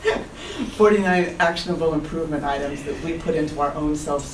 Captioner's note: laugh